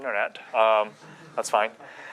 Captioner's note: chuckling